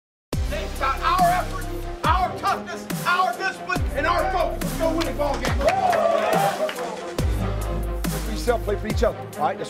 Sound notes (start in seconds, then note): 4.8 team cheering; 7.2 upbeat music